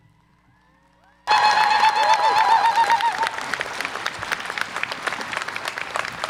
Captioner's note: audience applause and cheer